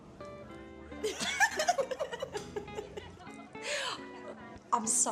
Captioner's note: women giggle